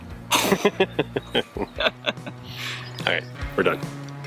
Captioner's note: both laugh